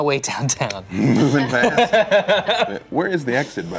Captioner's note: laughter